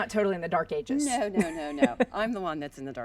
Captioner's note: laughing